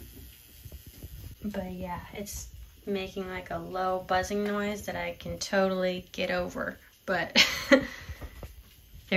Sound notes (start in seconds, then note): 7.3 laughter